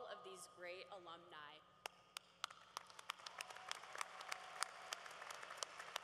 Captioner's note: cheering